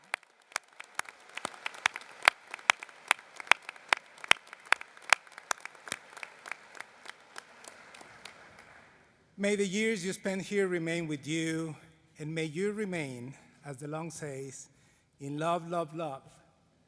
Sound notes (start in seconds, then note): 4.8 applause